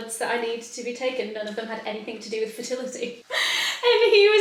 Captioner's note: laughs